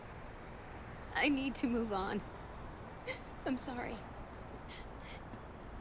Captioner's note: sobs